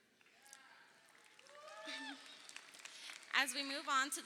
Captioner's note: crowd applauding